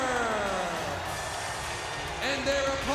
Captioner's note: audience cheers